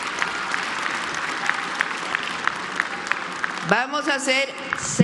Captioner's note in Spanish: aplausos